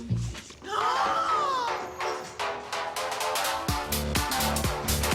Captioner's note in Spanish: Grito ahogado